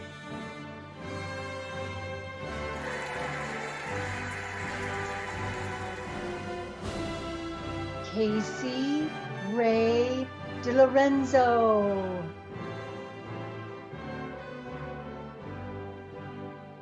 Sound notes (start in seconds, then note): 2.4 cheering and applauding; 13.2 cheerful music